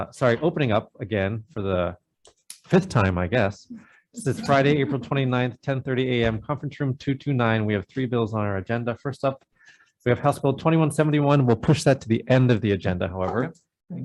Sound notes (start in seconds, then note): 4.3 group laughs